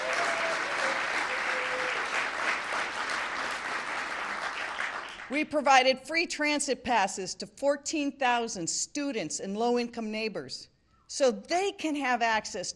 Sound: applause

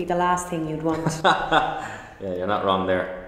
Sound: laughs

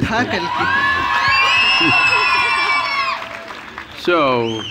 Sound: cheers/Applause

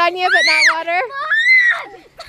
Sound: screams

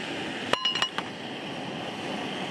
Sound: clang

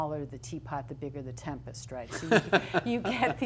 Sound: laughs

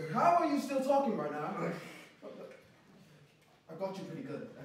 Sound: none

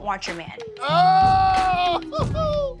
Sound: group yelling; laughing

